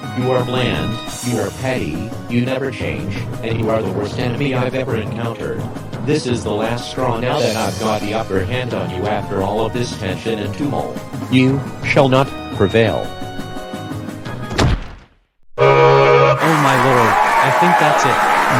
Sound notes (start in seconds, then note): 15.6 horn sound; 16.4 applause